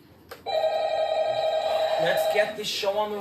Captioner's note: phone ringing